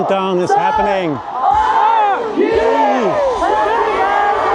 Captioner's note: crowd cheering